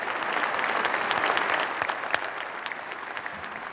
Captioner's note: applause